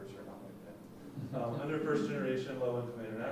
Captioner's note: laughing